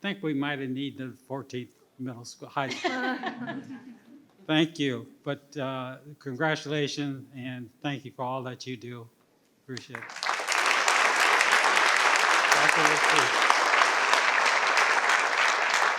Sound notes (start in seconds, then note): 2.7 participants laugh; 9.8 participants clap